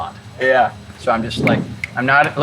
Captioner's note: snaps fingers